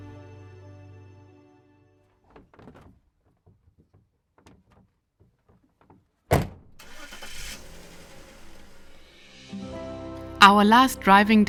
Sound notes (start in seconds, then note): 6.2 door banging; 6.7 vehicle engine whirring